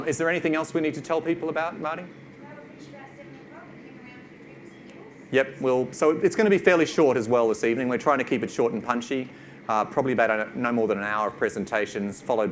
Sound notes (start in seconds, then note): 2.4 mumbles